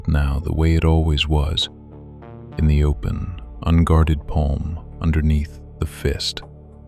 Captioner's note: soft voice